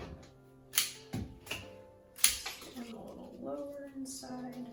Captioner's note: cutting sound